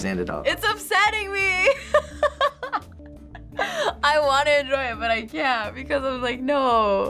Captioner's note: laughs